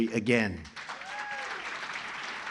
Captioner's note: applause